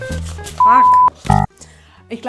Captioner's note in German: Piep